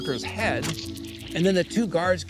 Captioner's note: snap splat